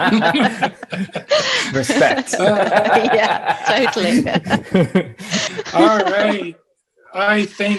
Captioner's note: laughter